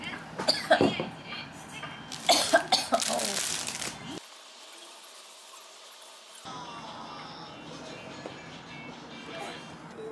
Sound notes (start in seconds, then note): 2.2 Coughing Coughing